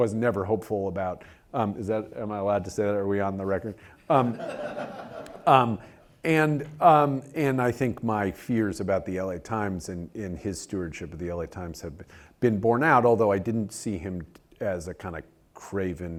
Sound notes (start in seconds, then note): 4.1 laugh